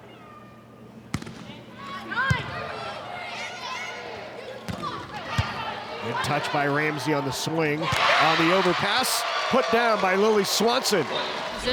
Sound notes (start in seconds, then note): 1.1 ball thumping; 2.7 players shouting indistinctly; 5.3 ball thumping